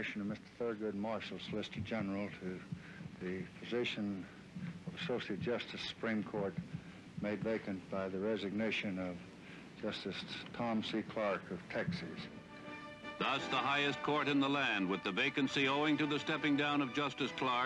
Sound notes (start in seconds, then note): 11.6 newsreel narration